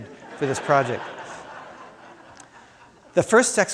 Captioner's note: crowd laughing